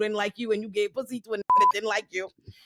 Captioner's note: beep